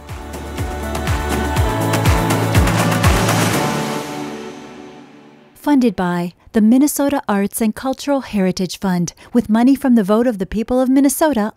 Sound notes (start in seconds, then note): 0.0 upbeat music; 5.6 voiceover